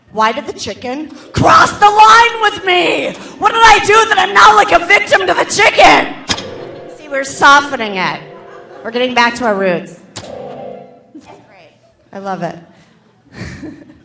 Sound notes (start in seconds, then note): 12.7 laughs